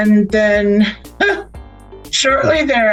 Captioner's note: laughs